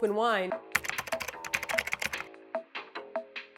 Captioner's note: typing sound effect